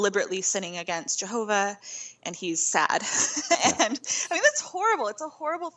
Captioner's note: laughing